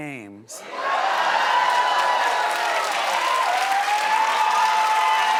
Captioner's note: audience cheering